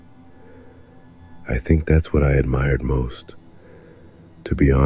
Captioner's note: thoughtful